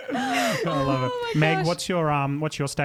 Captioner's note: laughing together